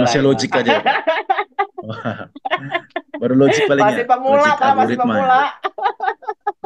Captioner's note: laughs